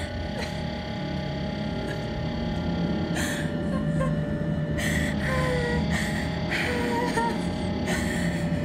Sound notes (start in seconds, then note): 0.1 crying